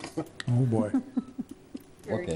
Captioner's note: laughter